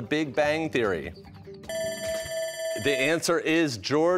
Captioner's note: bell ringing